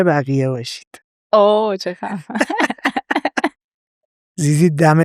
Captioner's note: laughs